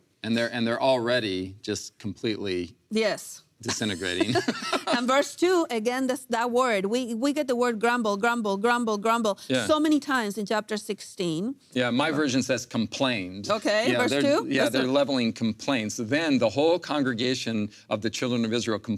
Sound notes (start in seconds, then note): 3.7 laughing